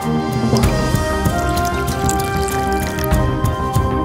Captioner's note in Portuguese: som de água escorrendo